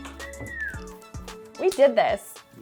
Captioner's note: whistles